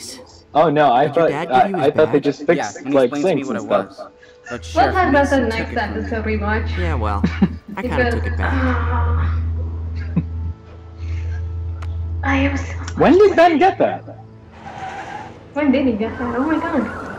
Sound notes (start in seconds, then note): 6.6 laughter; 7.1 moaning over the thought of the terrible episode awaiting them